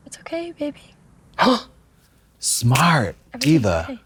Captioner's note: Trixie gasps